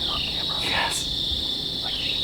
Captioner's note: whispering